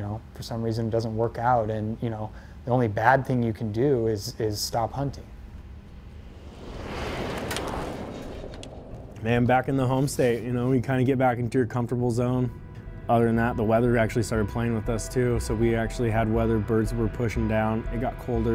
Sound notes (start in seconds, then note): none